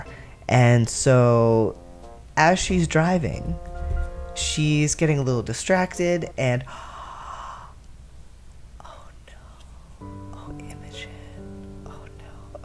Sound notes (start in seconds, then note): 6.7 gasp